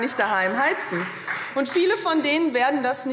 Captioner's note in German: Beifall Freie Demokraten